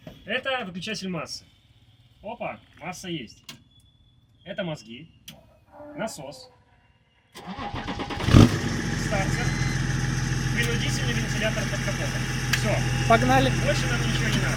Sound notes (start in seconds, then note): 7.4 car starts